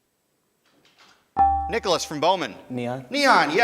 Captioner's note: ding